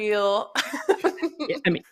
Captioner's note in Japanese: 笑い